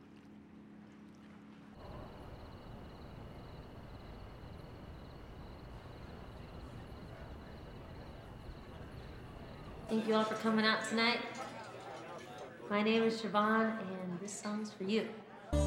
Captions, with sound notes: (car rolling) - Thank you all for coming out tonight. My name is Shevonne and this song's for you.